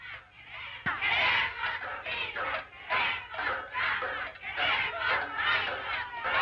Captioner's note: women chanting slogans in Spanish